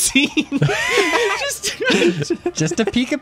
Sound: laughing; pat

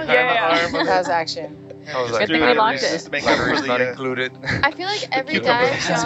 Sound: indistinct chatting

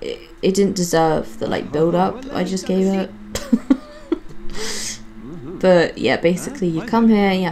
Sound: laughs

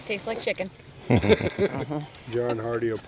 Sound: laughing

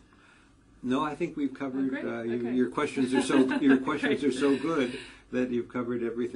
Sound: laugh

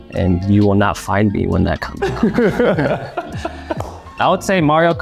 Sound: Jeremy laughing; Jeremy claps

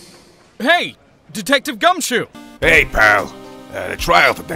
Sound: none

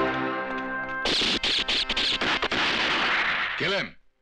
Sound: gun Firing

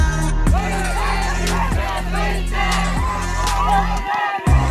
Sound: crowd cheering for Kristjan

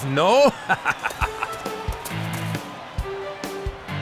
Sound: laughing

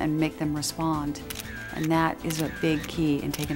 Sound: camera clicks

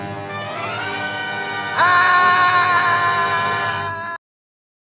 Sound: screams

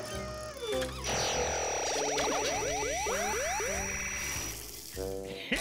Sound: zapping

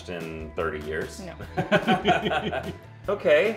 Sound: laughing

